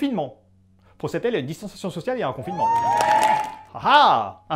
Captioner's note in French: foule en délire